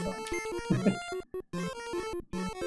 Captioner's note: chuckles